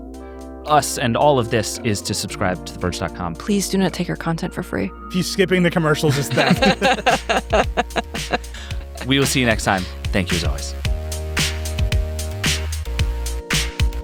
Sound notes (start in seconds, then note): 6.1 everyone laughs; 11.4 upbeat music